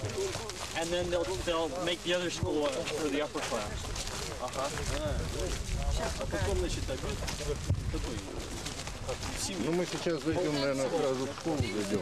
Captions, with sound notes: And then they'll make the other school for the upper class. Ah-huh. [RUSSIAN SPEECH]